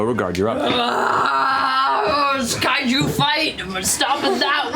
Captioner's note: roars